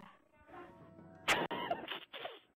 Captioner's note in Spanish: risas